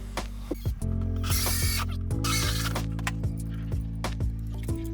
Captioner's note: gentle music; drill whirring; gentle music